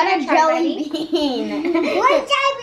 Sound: laughs

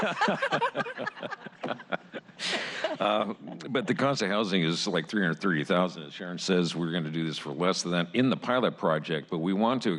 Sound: laughter

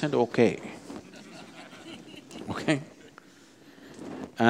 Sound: laughs

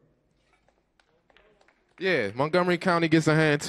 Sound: audience applauds

